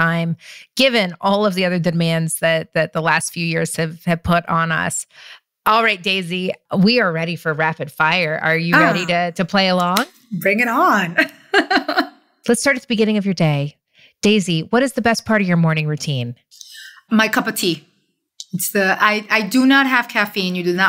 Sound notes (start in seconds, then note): 11.2 laughs